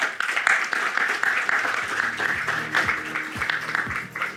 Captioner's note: audience clapping; upbeat music